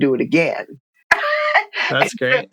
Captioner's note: laughter